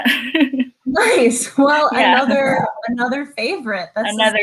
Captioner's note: chuckles